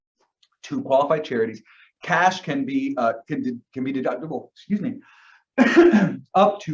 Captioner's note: coughs